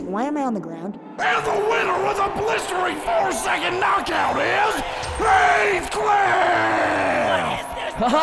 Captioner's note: crowd booing and complaining